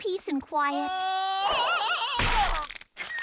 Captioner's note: knuckles tarzan-yells